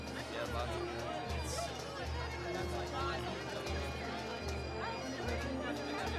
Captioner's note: chatter